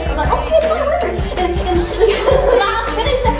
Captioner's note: laughter